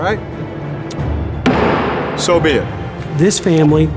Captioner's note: pounds hammer